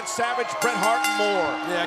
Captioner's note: bell ringing